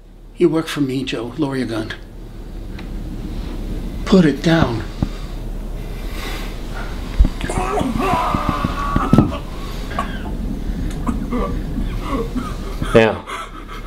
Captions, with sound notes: You work for me Joe. Lower your gun. Put it down. (Danny vomits in the background) Now...